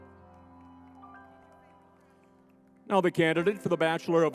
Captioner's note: crowd cheering; spirited music